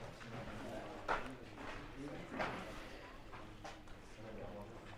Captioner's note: background chatter